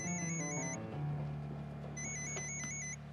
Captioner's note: phone rings